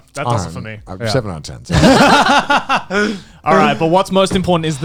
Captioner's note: all laughing